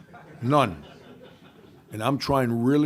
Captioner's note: laughing